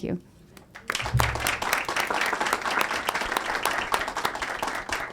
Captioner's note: audience applauds